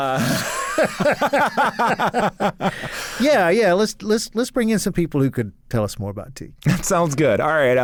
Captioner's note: laughs